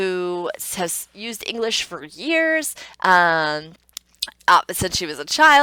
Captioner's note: clicks tongue